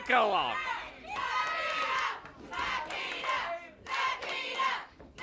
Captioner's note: audience chants